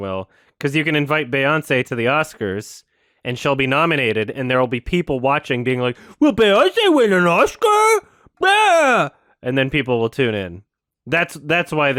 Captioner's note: mocking